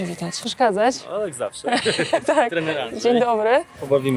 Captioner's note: laughs